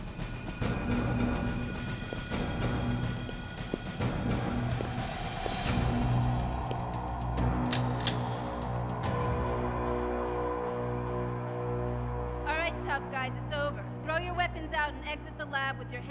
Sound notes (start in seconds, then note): 7.6 gun clicks; 9.1 suspenseful music